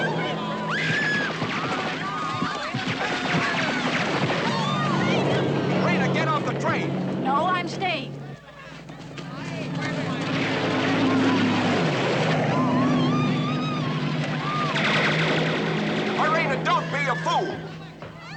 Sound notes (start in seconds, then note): 0.4 woman Screaming; 12.5 woman Screaming